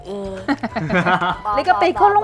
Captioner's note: laughing